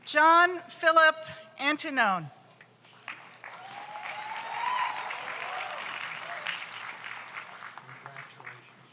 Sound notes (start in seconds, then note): 3.0 audience applauds; 3.4 audience cheers